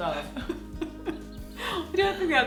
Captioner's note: laughs